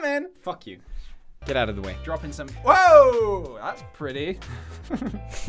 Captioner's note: both giggle